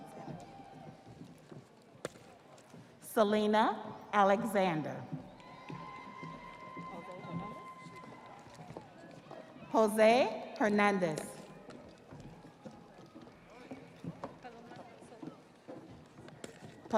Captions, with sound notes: (audience applauding) (audience cheering) Selena Alexander. (audience applauding) (audience cheering) Jose Hernandez.